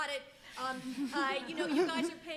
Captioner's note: audience members laughing